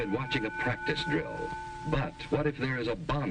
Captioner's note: loud ding